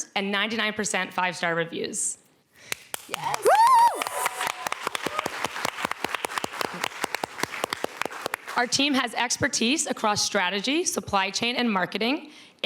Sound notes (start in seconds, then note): 3.0 cheering, applause